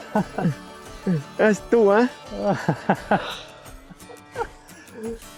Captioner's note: laughing